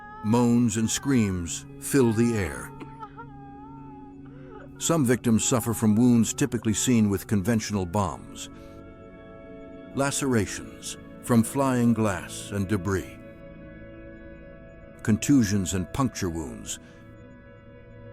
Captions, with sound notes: Moans and screams fill the air. [woman crying] [woman crying] Some victims suffer from wounds typically seen with conventional bombs. Lacerations from flying glass and debris. Contusions and puncture wounds.